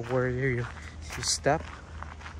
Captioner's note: walking on gravel